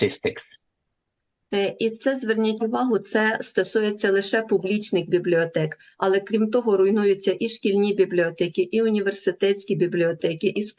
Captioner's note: foreign language